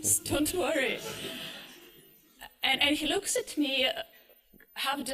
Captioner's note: laughter